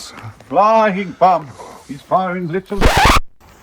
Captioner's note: record scratch